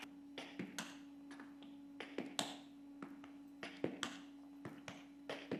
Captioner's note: rhythmic stepping and tapping